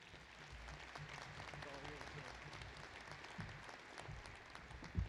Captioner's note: applause